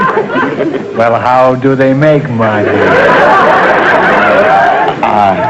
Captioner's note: audience laughter; imitating Albert